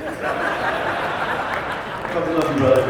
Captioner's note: audience laughs